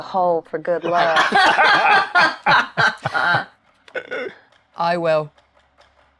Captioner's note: players laughing